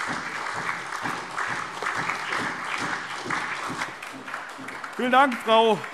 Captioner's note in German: Beifall SPD